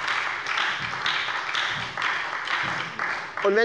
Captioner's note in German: Beifall bei der SPD